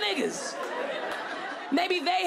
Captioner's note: audience laughing